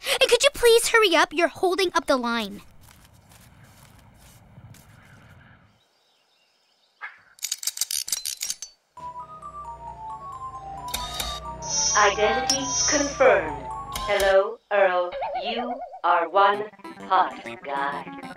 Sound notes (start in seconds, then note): 3.4 wind whistling; 7.3 clattering